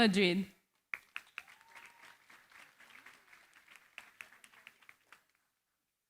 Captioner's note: applause